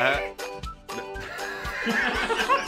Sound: laughter

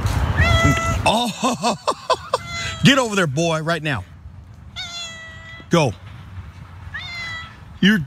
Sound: laugh

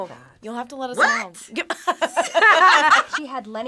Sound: group laughs

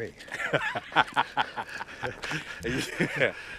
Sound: laughs

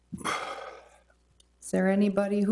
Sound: trustee sighs

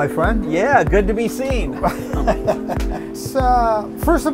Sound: laughs

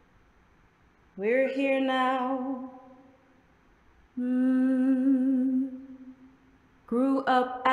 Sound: hums

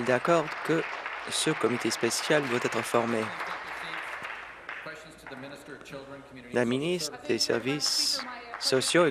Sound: applause

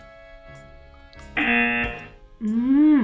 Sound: buzzer rings

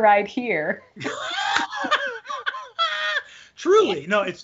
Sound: both laughing

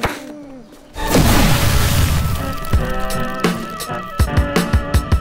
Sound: loud explosion

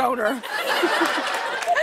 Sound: laughter

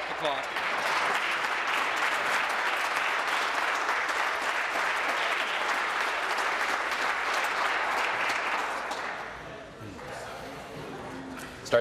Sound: applause

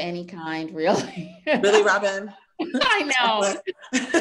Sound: laughs

